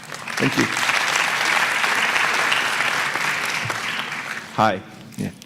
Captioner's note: applause